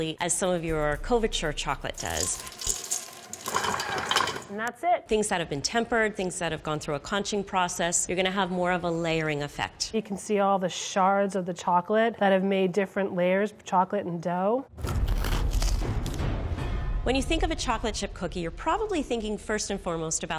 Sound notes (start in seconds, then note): 2.0 chocolate rattling; 14.8 cookies crunch